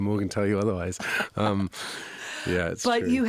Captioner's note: interviewer laughing